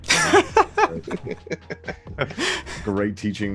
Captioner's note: laughing